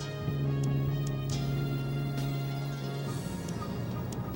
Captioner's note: motor buzzing